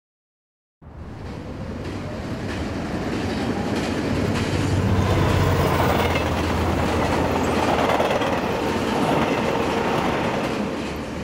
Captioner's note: Sky trains passing